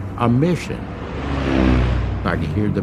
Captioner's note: plane engine roaring